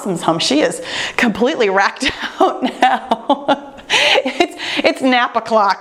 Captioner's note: laughs